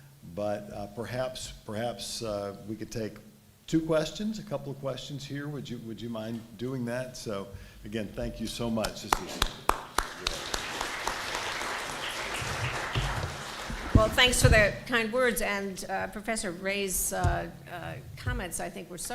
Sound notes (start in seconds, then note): 9.1 applause